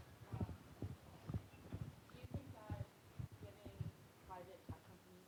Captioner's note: student speaking faintly